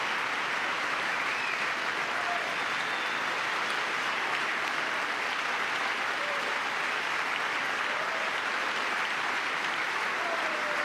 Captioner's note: cheering